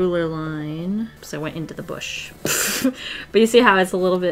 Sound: laughs

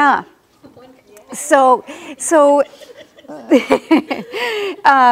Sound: laughs

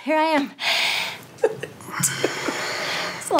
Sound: giggles

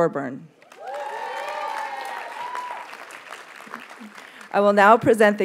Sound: audience cheers and applauds

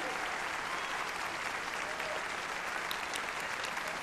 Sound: applause

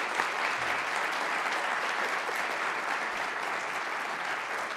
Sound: all applauding

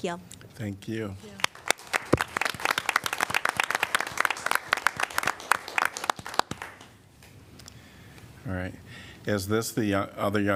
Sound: applause

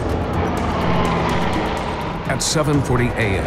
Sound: airplane engine roars

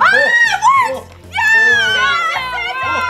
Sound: yelling

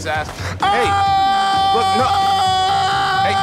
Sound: yelling

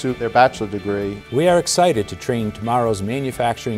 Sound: voiceover

